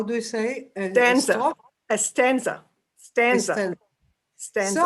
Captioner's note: yiddish